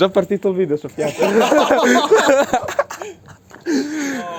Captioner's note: laughter